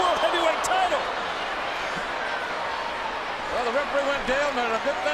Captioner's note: applause